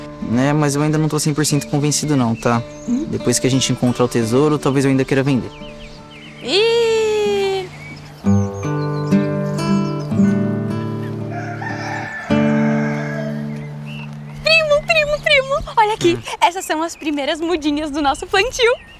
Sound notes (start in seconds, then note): 7.7 birds; 11.2 rooster crowing